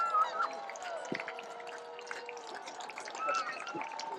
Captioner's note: cheering, applause